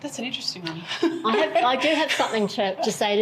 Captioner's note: giggles